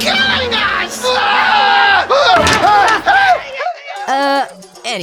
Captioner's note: screaming